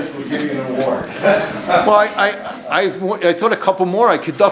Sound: audience laughs

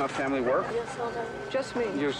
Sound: speaking in a foreign language

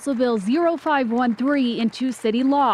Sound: cheering and applause

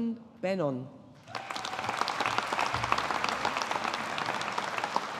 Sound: audience applauding

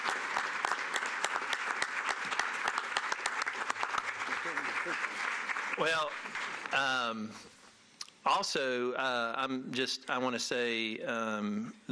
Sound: applause

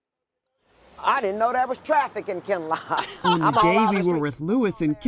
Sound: laughs

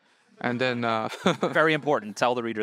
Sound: audience laughing

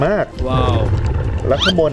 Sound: exhale

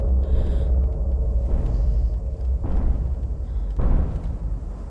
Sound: heavy breathing

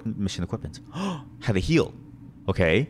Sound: gasp

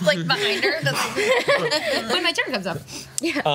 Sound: laughs

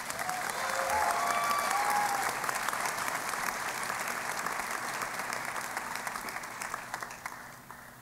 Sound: applause

